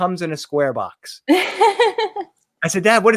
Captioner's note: laughs